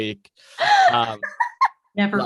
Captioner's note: laughing